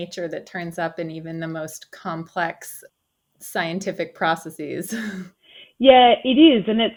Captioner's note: chuckles